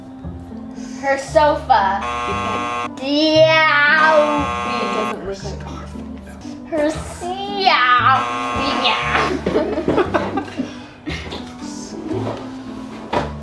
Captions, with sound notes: - Her sofa? (buzzer buzzing) Deeooowfee (buzzer buzzing) - Scarf. - Her seeeowwwfffeaa? (buzzer buzzing) (laughing) - Her scarf.